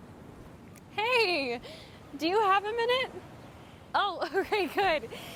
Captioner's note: laughs